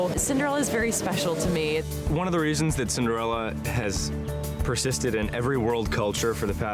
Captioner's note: speaking over performance